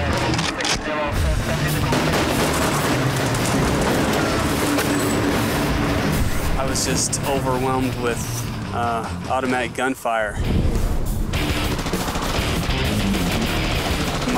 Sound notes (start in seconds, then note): 0.1 cocking; 1.4 gunfire; 11.3 gunfire